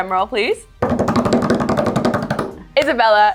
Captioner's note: hands drumming